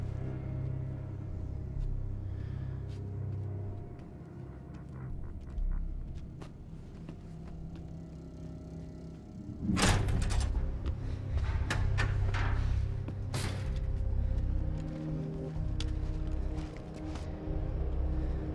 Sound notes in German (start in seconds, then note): 13.5 schweres atmen